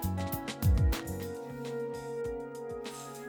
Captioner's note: blowing